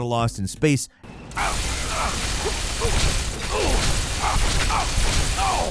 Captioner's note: The Lone Wanderer grunts